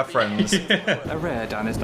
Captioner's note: Phil laughs